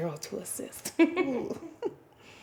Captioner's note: chuckling